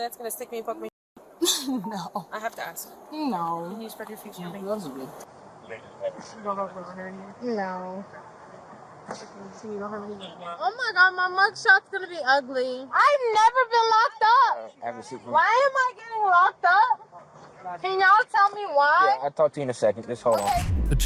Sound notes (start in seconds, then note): 5.6 radio chatter